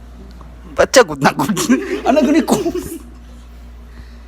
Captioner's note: laughs in Bisaya